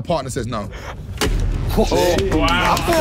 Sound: phone slamming

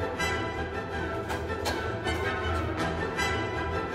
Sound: tien claps his hands

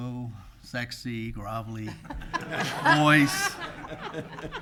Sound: laughing

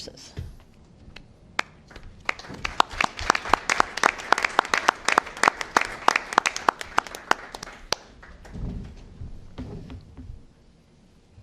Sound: applause

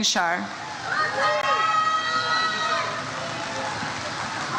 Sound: audience cheers

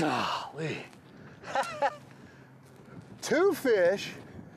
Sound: chuckles

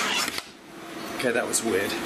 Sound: door shuts

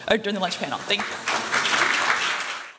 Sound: applause

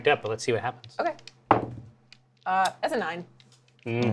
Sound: die clatters

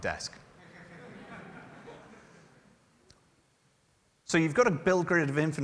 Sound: laughter

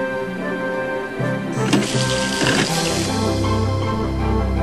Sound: pumping water

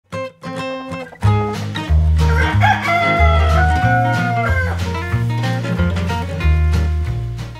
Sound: rooster crows; lively music

